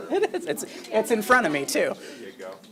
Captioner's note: laughs